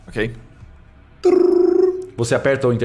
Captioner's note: intercom sound